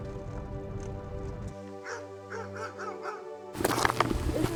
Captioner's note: dog barking